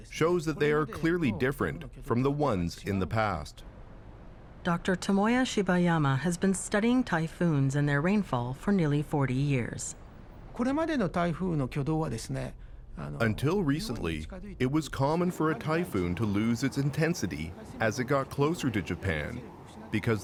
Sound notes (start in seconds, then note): 13.2 speaking Japanese